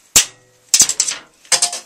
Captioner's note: klonk